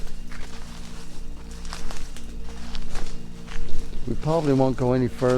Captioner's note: twigs crunching